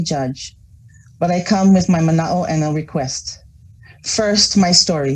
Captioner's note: foreign language